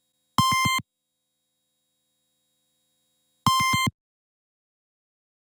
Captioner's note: computer beeps